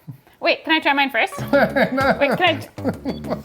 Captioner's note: laughs